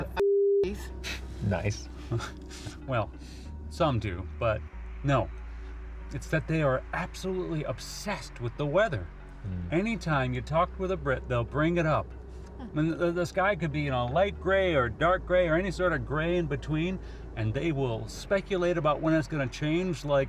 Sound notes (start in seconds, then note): 2.0 chuckles